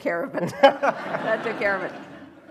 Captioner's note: laughter